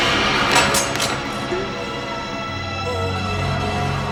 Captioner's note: knife clatters